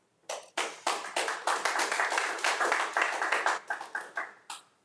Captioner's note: crowd applauding